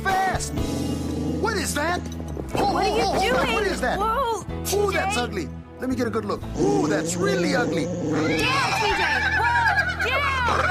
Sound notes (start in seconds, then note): 6.6 neighing